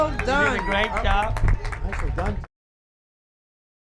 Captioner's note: cheering